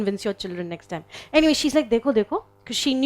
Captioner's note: speaking in foreign language